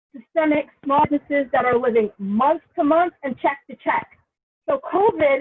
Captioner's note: audio distortion